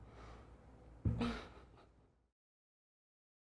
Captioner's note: laughing